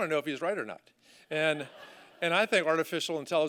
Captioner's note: laughter